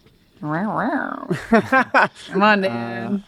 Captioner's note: makes cat meow sound